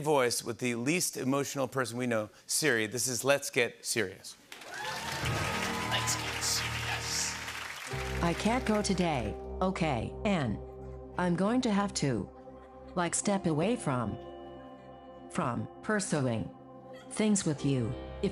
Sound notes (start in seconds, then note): 4.5 cheers and applause